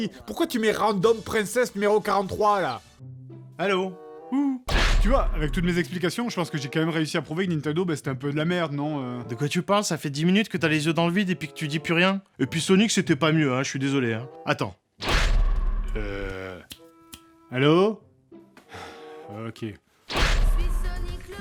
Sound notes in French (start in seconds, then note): 16.6 click; 18.7 soupir